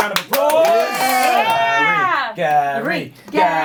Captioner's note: everyone cheering